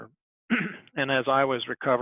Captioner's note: clears throat